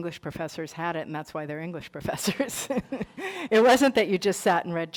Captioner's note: laughs